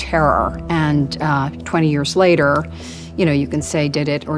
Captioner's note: inhales